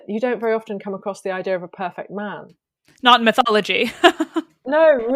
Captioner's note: laughs